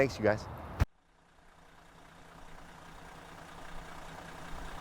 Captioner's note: motor humming